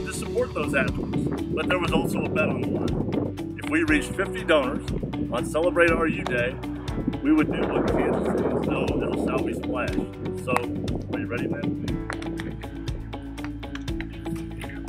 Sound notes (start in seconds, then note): 7.0 muffled in wind